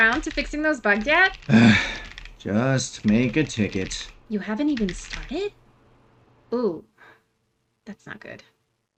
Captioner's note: sigh